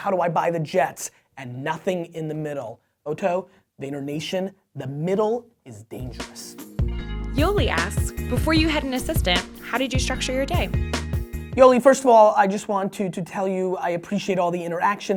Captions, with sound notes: How do I buy the jets? And nothing in the middle. Oto, VaynerNation, the middle is dangerous. - [Voiceover] Yoli asks, "Before you had an assistant, "how did you structure your day?" - Yoli, first of all, I just wanted to tell you I appreciate all the interaction.